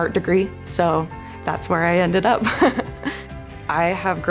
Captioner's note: laughs